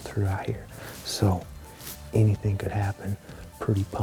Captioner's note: whispering